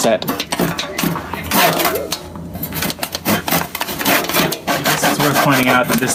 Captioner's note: sawing continues